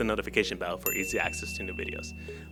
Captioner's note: bell Ding